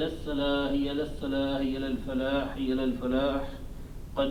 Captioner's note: man reciting Arabic prayer